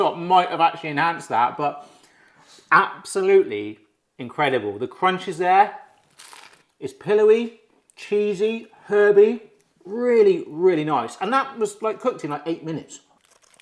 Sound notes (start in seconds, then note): 6.0 crumpet crunching